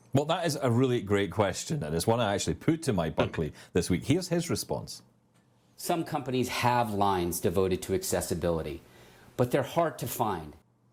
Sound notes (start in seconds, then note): 3.6 chuckling